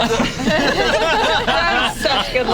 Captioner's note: group laughs